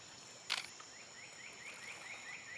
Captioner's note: camera shutter clicks